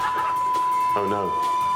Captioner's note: continuous beep